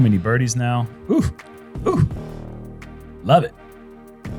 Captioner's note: barks